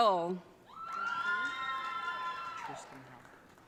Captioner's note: audience cheering